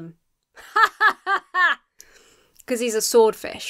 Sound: imitates laughter

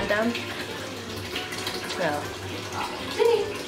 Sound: water running

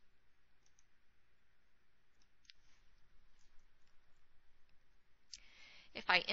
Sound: silence

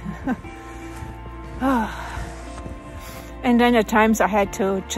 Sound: laughs; sigh

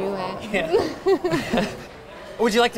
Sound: laughs

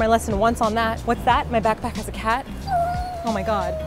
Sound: meow

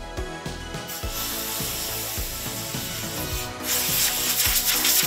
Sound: air gun hissing

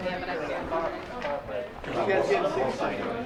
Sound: chattering

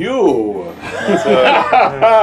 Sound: laughing

